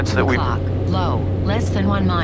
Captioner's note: system voiceover